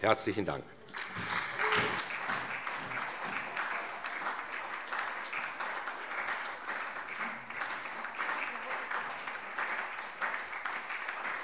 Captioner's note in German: Anhaltender lebhafter Beifall SPD